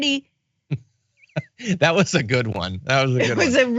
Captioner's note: laugh